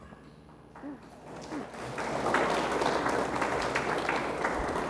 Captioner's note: audience applauds